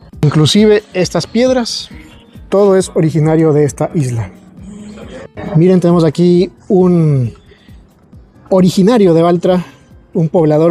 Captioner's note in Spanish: carraspeo